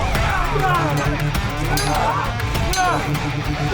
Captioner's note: all cheering; swords clanging